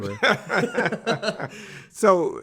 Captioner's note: both laughing